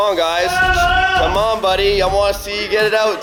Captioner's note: man Shouting